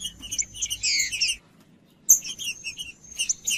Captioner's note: trinca ferro cantando